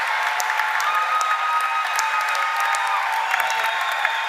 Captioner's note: cheers and applause